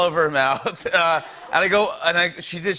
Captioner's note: laughter